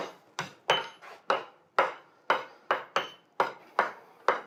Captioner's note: metal clangs